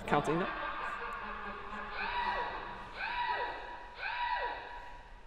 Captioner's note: screaming